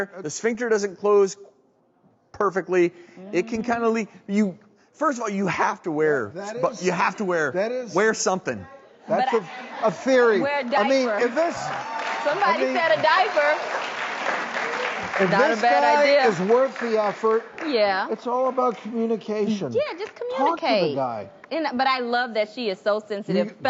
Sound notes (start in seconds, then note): 10.5 audience laughing and clapping; 12.4 audience cheering